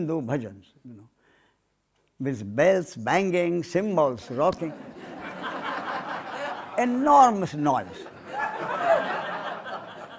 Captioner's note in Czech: smích